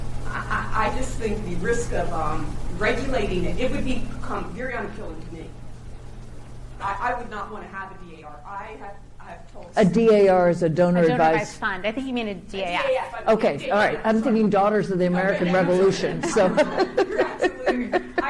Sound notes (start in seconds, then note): 16.0 laughs